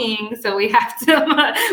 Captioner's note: laughs